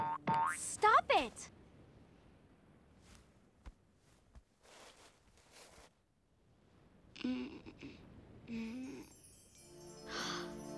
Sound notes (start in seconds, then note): 6.8 groaning; 9.4 gasping